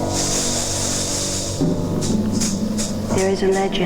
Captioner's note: wind howling